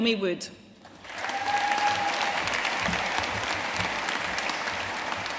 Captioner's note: audience cheering and applauding